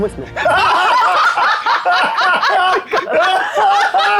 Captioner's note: players laughing